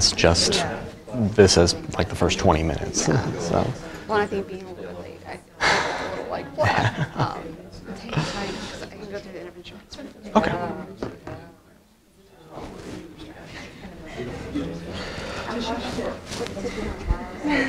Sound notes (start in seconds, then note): 6.2 classroom chatter